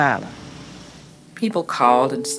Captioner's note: soundbite of archived recording